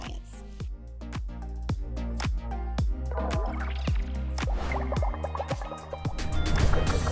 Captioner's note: upbeat music; screen whooshing